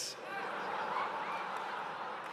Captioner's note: laughter